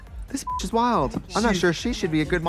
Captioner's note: Katya laughing; beep